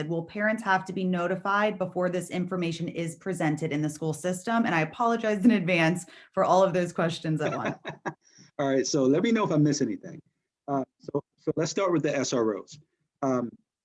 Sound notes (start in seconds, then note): 7.3 laughter